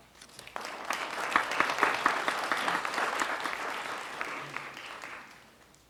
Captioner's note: audience clapping